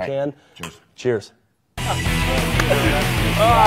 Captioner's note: glasses clinking; loud rock music